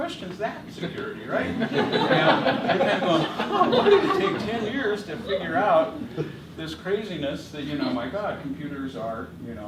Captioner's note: laughter